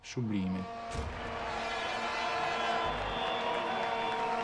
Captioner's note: air horns blare; cheering